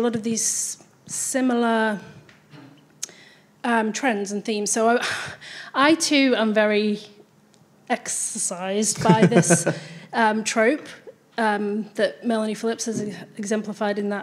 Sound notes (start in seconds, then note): 5.1 chuckles